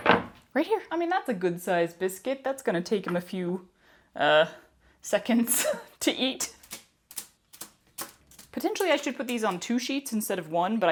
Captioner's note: metallic crinkles